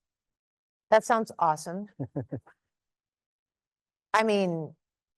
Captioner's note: chuckles